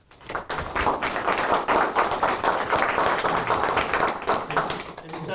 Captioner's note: audience applauding